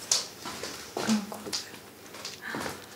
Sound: quietly

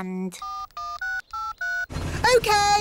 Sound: dialing

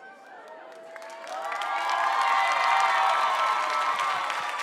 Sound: audience cheering

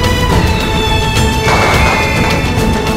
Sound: crackers bursting

